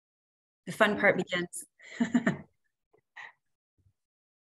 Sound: laughs

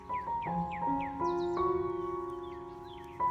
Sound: birds are singing

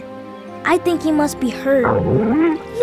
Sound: whimpering

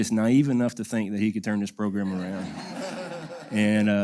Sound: laugh

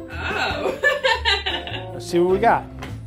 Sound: laughing

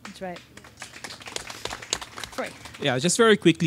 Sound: audience claps

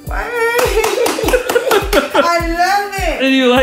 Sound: claps

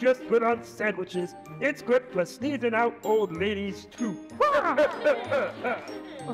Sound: laughs; gentle music

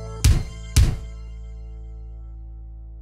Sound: text thuds

